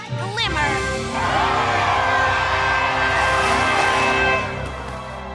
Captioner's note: cheers